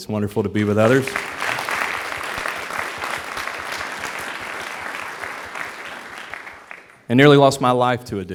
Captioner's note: applause